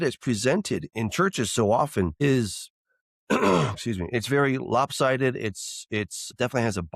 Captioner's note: snorts and clears throat